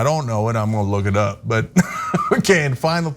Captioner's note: laugh